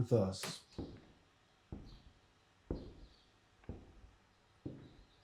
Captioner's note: footsteps tapping